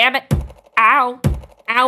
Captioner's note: thud